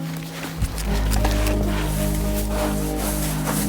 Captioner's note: snow crunching